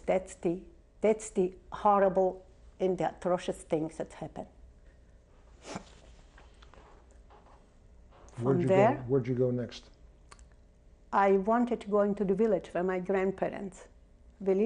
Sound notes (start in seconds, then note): 4.5 pauses for 3 seconds